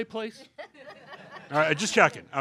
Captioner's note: laughter